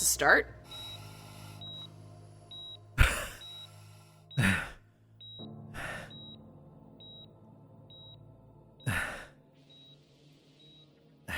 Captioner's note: groans and coughs